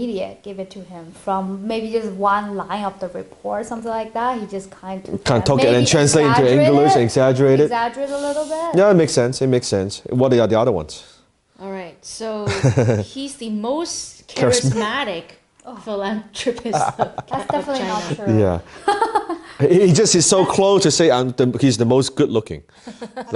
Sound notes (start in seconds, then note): 12.5 chuckles; 18.7 laughs